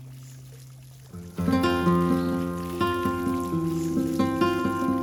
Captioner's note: fountain trickling